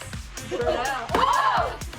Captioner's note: girls exclaim